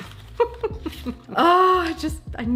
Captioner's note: laughs